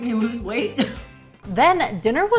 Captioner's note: laughing